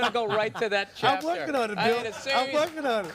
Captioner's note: laughter